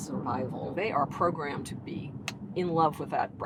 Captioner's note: snaps fingers